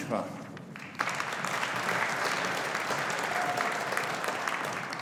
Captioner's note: audience applauding